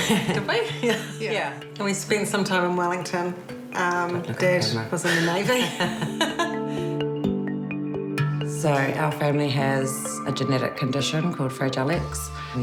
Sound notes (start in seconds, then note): 5.1 all laugh